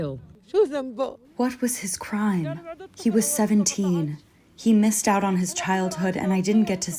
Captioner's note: through translator